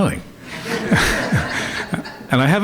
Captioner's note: laughter